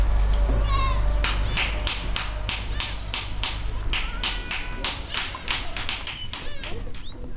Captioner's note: sound of a hammering nearby